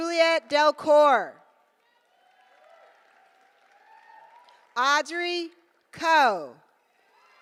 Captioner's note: applause